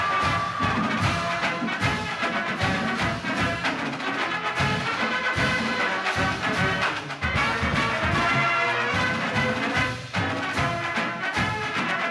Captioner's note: applause